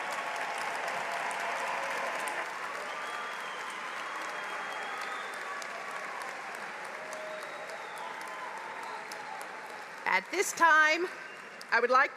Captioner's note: applause